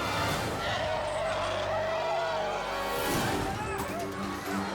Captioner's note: elephant roars